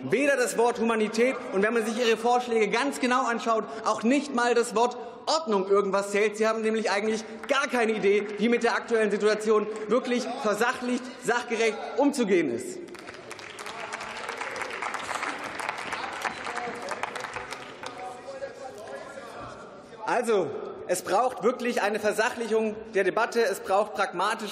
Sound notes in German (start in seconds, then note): 12.8 Beifall